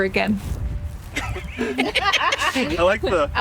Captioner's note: laughter